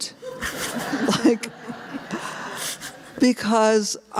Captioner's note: laughter